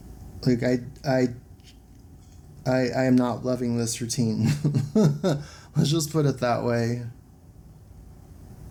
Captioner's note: laughs